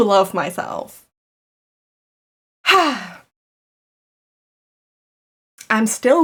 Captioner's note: sigh